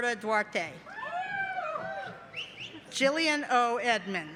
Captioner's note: cheering